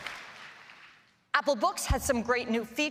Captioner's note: applause